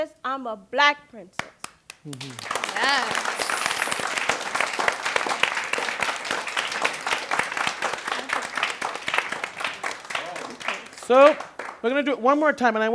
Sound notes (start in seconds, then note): 1.4 applause